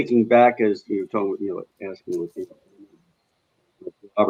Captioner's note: speaking faintly